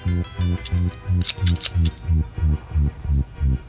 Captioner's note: snipping of scissors